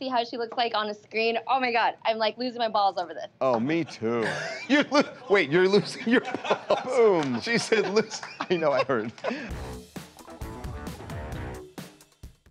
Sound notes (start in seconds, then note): 8.3 laughter